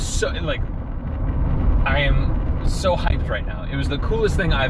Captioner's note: stammering